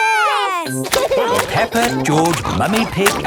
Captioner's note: laughing